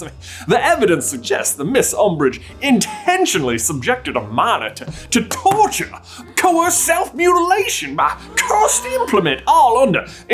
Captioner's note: gaaaasssp